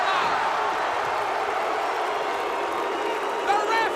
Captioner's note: crowd cheering